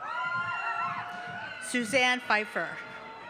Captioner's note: cheering